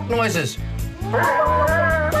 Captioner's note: all imitate chickens clucking